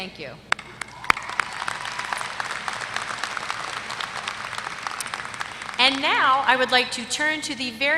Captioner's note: applause